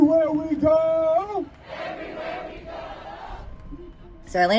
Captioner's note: crowd